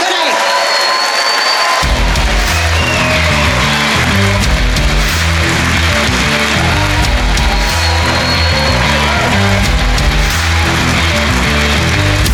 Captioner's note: cheering